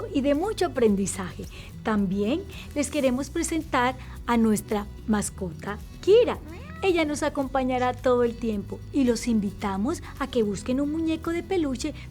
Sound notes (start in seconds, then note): 6.4 meow